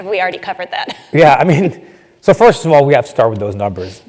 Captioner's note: laugh